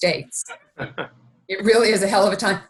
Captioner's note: laughing